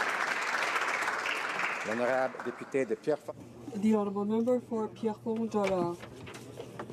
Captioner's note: applause